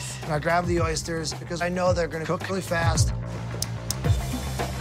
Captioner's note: switch clicks